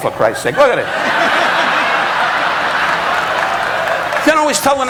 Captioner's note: audience laughing